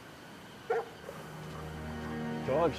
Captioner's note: dog barking; pensive music